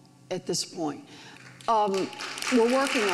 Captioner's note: audience applauds